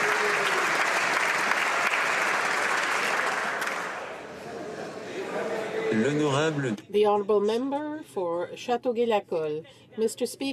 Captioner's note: applause